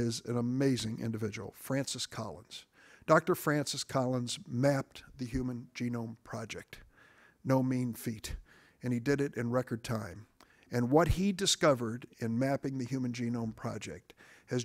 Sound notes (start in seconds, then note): none